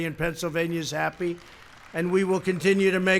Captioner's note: applause